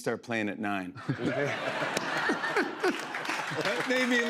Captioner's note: laughter